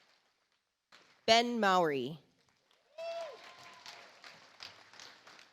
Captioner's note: audience applauds